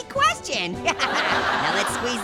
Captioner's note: Orange laughs; audience laughs